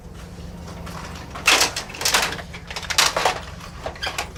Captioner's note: cartridge clatters